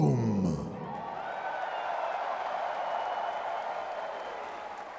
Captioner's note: crowd cheering